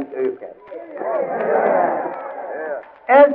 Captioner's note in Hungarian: éljenzés